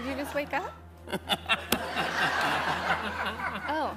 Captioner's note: laughter